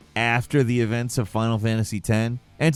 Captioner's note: none